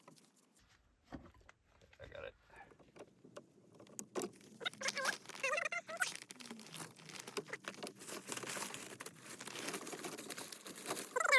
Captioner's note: sped up sounds of installing new PEX